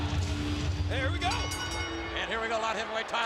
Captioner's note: bell ringing